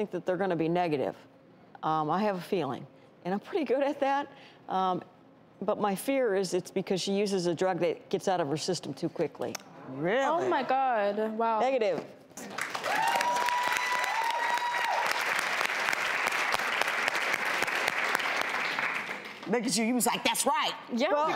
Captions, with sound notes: that they're gonna be negative, I have a feeling. And I'm pretty good at that but my fear is it's because she uses a drug that gets out of her system too quickly. - Really? - Oh my God, wow. - Negative (audience cheers) - You was like, that's right!